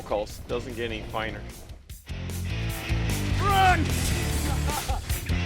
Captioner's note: laughing